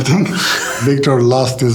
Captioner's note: Oscar laughs